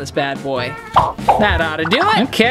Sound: popping

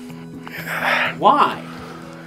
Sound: sigh

